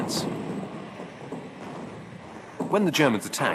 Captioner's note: bombs exploding